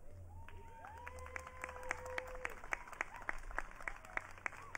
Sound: audience cheering

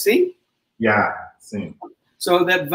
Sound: speaks portuguese

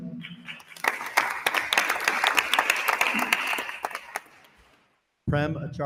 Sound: attendees applauding

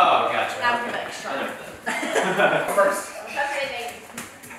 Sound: laughter

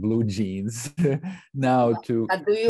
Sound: chuckles

